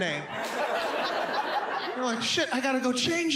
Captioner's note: audience laughs